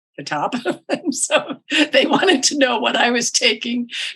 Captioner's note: laughs